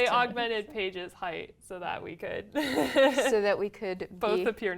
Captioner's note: laugh